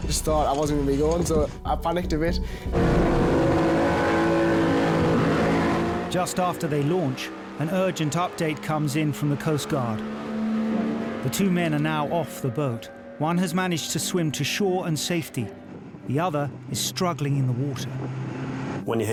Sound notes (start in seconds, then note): 2.9 engine revving